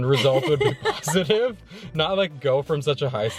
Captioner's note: laughs